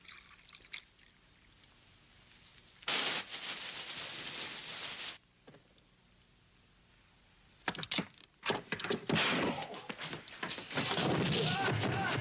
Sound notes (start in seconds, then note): 7.9 fist thudding; 9.4 Dan groaning; 10.4 body thudding